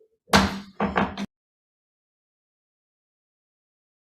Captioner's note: gavel tapping